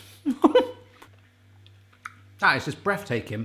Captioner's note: laughs